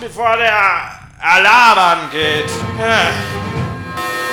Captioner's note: sigh